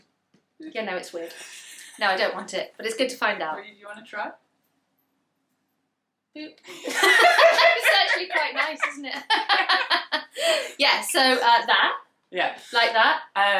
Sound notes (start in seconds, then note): 6.7 laugh; 10.6 laughs